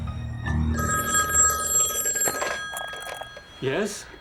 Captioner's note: phone ringing